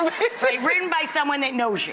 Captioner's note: Priyanka laughs